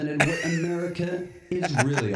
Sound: laugh

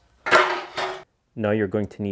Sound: part clattering

